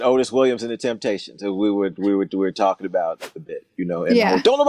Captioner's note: whooshing sound; whoosh